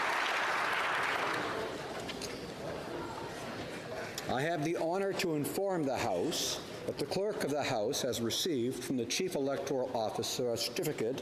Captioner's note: applause